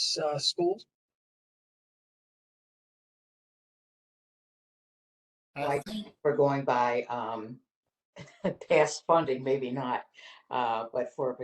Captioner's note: laughter